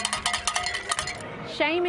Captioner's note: cowbell ringing